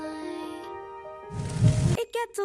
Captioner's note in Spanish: Sonidos de incendio